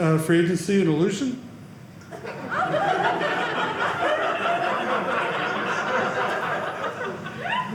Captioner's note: audience laughing